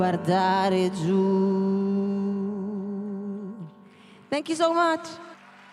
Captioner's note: applause